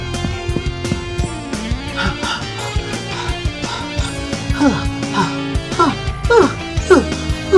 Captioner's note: panting